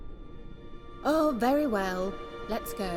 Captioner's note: exasperated